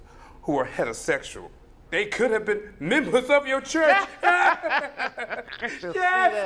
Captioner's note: laughter